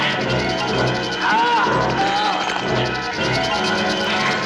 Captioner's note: groaning